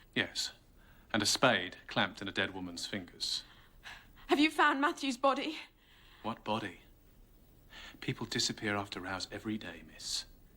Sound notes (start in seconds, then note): none